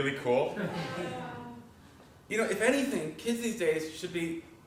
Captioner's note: laugh